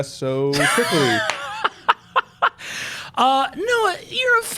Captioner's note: laughing